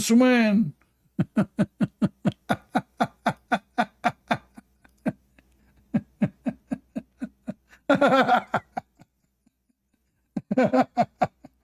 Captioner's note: Ketawa